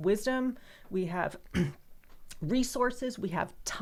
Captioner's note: clears throat